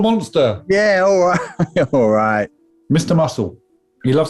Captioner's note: laughing